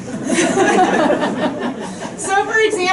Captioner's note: crowd chuckling